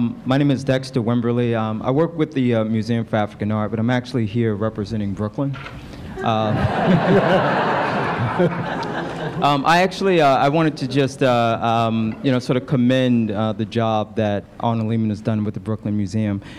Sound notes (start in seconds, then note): 6.2 laughter